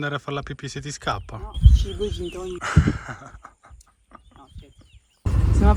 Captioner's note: laughs